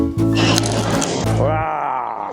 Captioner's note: crunch